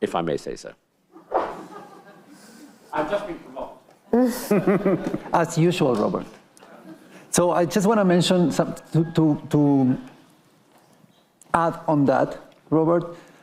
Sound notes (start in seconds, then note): 1.2 attendees laughing